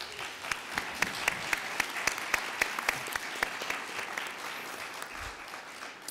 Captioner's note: applauding